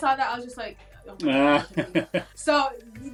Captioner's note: laughter